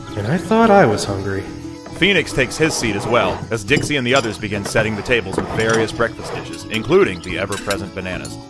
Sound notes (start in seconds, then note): 1.8 chairs scraping, dishes clanking